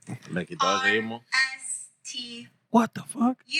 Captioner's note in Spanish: Hablando en idioma extranjero